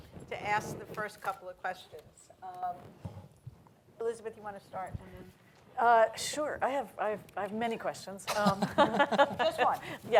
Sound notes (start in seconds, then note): 8.3 laughter